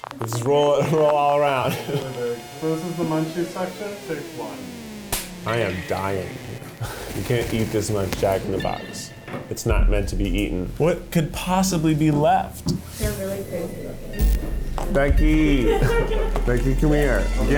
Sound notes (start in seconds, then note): 4.6 clicking; 15.4 laughing